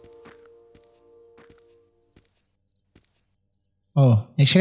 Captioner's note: night ambiance and crickets